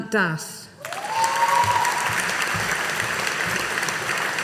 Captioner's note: audience applauding